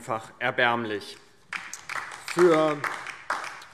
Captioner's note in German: Beifall DIE LINKE